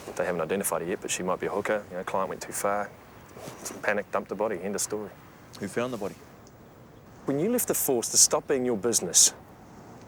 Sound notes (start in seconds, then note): none